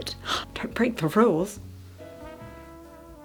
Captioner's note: gasps